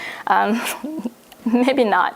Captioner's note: laughs